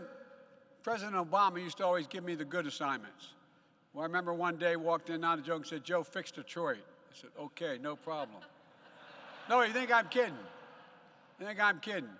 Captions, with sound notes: President Obama used to always give me the good assignments. Well, I remember one day, I walked in -- not a joke -- he said, "Joe, fix Detroit." I said, "Okay, no problem." (Laughter.) No, you think I'm kidding. You think I'm kidding.